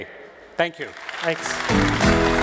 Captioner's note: applause